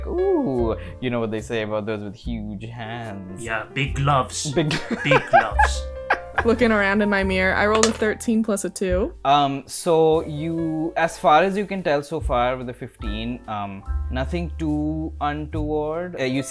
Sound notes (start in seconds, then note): 4.6 laughter